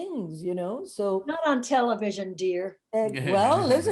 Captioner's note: chuckles